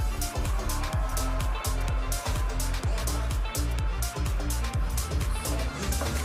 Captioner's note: audience applauding and cheering